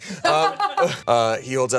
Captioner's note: laughs